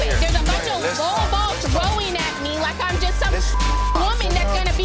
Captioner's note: beeping